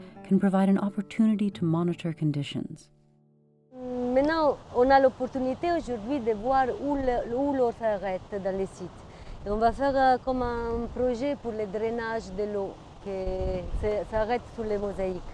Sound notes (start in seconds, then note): 5.2 foreign language